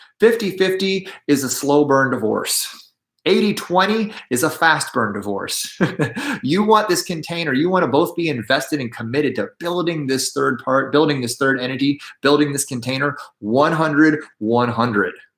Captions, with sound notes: 50/50 is a slow-burn divorce. 80/20 is a fast burn divorce. [CHUCKLES] You want this container. You want to both be invested and committed to building this third part, building this third entity, building this container 100/100.